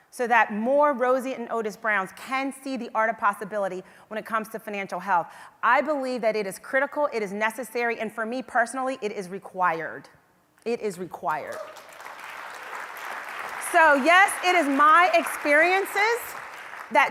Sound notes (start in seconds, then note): 11.6 audience applause